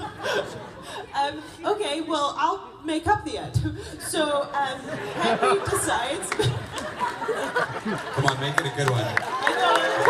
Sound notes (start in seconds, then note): 6.3 laughs